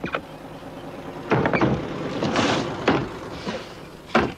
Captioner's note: engine running